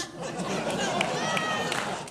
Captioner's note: audience laughing